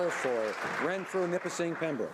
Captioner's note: some Applause